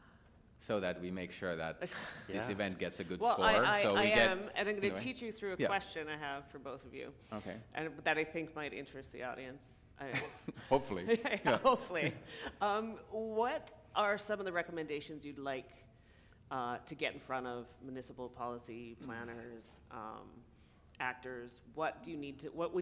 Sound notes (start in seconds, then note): 10.0 laughter